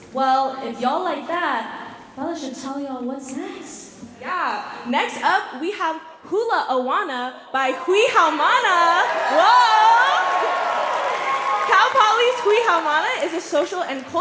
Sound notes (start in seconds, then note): 8.5 cheering; 8.6 applause